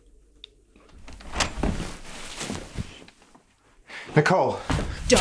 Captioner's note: door opening